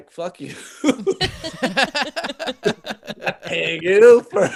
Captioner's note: laughing